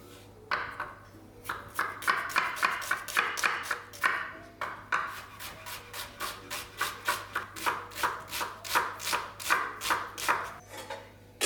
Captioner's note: chops